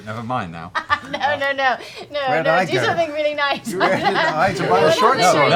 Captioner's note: laughs